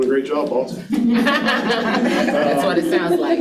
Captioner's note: participants laughing